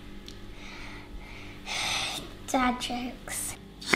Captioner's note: sighing